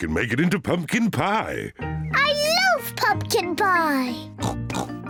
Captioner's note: snorts